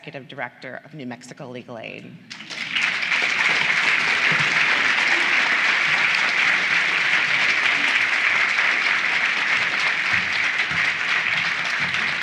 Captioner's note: applause